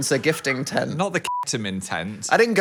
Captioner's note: beep